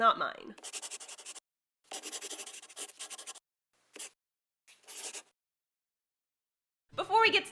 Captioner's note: the sound of a pen scratching. LOGO